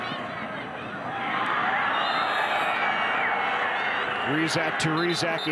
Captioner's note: fans cheer; referee blows whistle